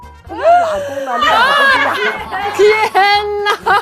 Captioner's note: haha